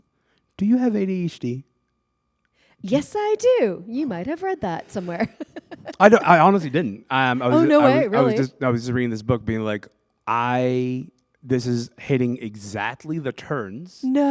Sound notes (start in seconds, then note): 5.0 laughter